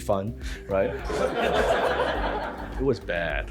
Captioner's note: crowd laughs